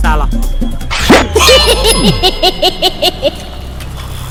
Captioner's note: Cycle laughs